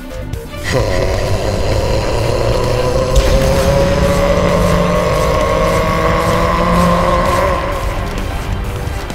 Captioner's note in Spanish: Gritos